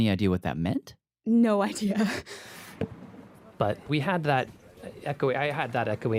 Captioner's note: laughs